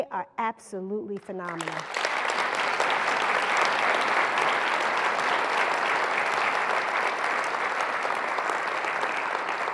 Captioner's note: applause